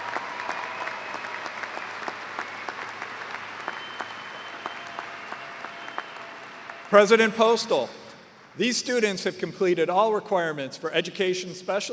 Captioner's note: cheers and applause